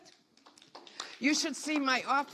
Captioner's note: audience applauds